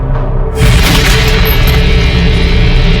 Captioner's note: gunshot fires; dramatic music